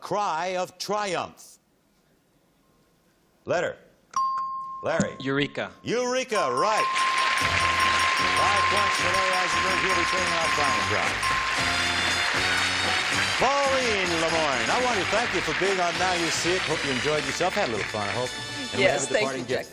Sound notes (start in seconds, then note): 7.6 dinging